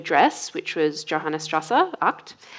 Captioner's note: speaking foreign language